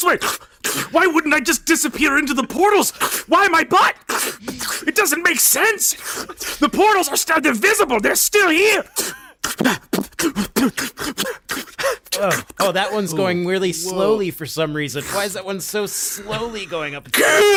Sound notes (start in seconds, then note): 0.3 slurping; 9.3 beatboxing